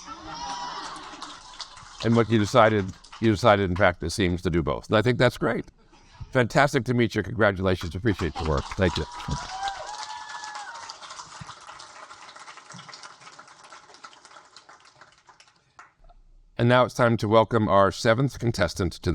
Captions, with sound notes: (audience laugh and applaud) - And what you decided, you decided, in fact, it seems, to do both, and I think that's great. Fantastic to meet you, congratulations. Appreciate your work. - Thank you. Thank you. (audience applaud) And now it's time to welcome our seventh contestant